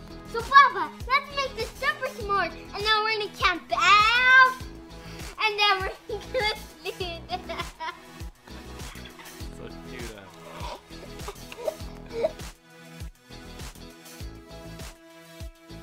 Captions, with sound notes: So papa! Let's make the super s'mores And then we're gonna camp out And then we're gonna sleep... (Laughing)